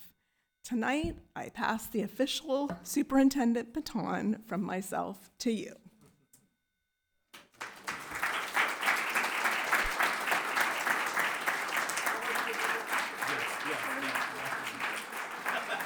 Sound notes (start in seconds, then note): 7.3 audience clapping